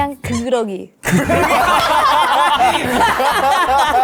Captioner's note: Sudden Lily-language